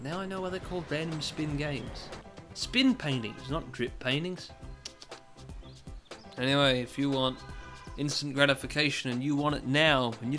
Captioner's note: tut tut tut